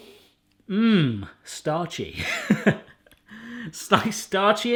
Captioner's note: laughs